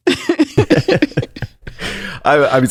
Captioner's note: laughs